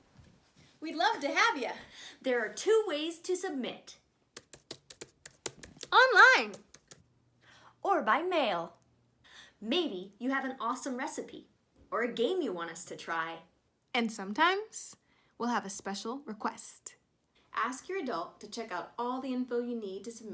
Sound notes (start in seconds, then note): 6.4 keyboard clacking